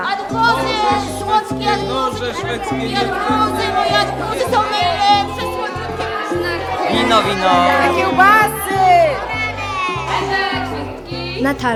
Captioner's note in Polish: gwar na targowisku